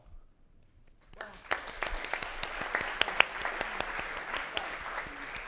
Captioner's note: audience applauds